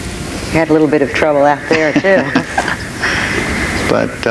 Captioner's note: laughs